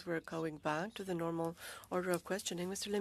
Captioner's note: speaking French